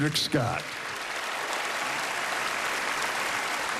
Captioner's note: cheering and applause